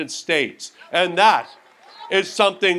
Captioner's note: audience applauds